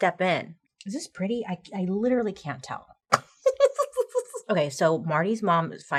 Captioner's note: giggling